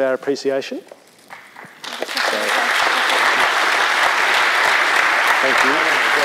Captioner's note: applause